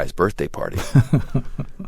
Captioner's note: laughter